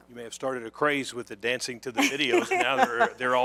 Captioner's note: laughter